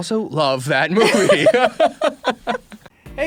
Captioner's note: chuckles